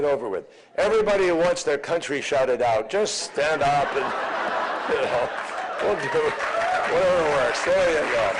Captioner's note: laughter and applause